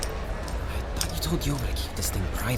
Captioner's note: sounds of approaching footsteps